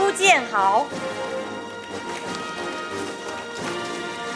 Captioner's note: audience applauding; orchestral music